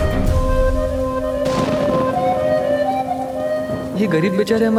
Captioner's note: thunder rumbling